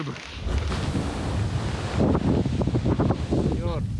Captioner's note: wind blowing